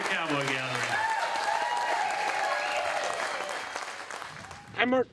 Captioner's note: audience clapping